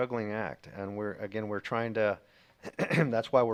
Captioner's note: clears throat